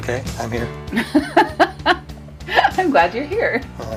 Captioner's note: laughs